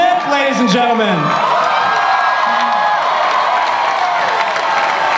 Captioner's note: audience applause